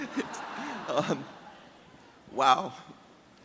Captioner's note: audience chuckles